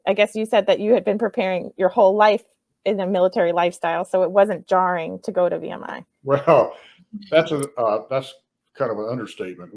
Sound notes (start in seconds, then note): 6.3 laughs